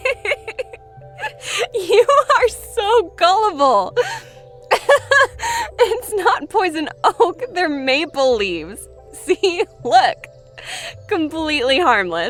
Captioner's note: laughs